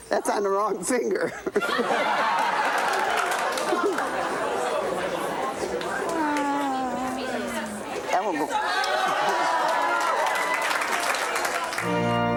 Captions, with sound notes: That's on the wrong finger. (audience laughing) (audience chattering) (audience claps) (chattering)